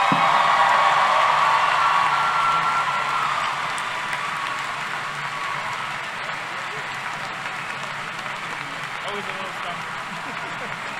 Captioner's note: applause